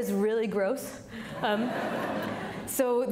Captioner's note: audience laughing